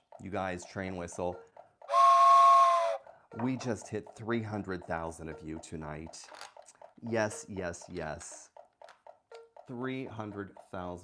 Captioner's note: train whistle sound effect